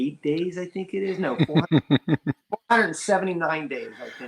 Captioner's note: laughs